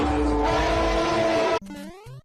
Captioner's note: scream